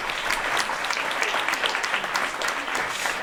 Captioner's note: applause